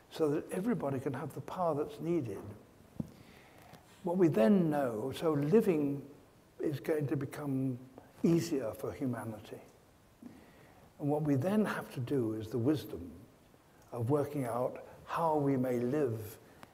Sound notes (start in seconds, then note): none